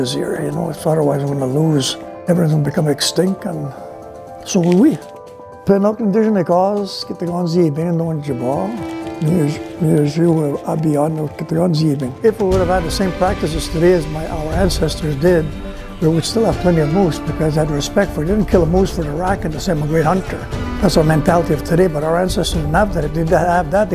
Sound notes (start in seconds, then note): 5.4 speaking Anishinabemowin